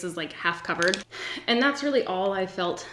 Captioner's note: sighs